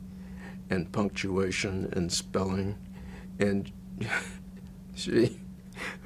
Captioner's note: chuckles